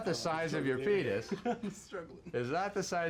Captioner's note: laughs